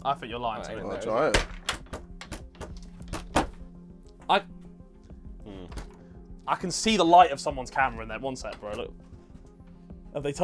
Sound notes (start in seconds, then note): 1.3 door clanging